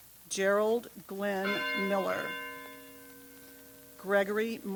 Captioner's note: bell tolls